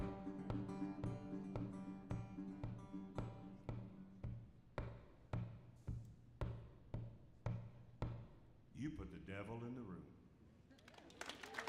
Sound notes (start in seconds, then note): 0.3 foot tapping